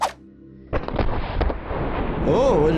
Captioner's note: explosion banging